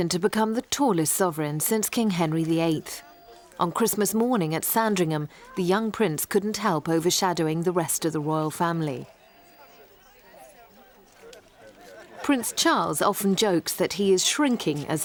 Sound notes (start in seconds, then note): 9.8 chattering